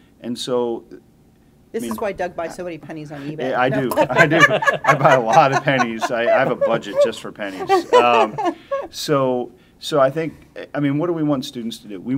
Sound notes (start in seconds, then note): 3.2 laughter